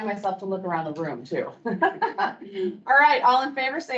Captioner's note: laughs